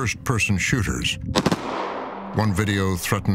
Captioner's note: gunfire